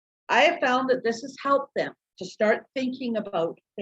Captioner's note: none